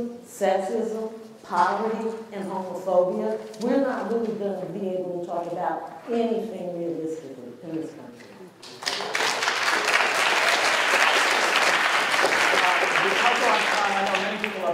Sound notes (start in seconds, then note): 8.6 applause